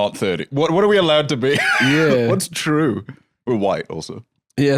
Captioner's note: laughs